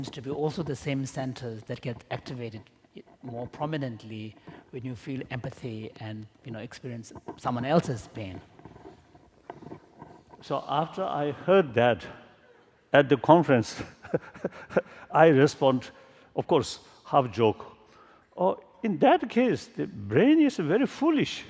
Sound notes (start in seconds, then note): 13.8 laughter